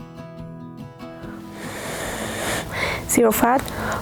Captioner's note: blowing through straw